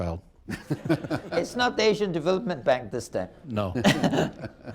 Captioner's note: laughter